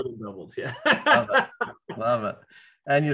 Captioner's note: laughs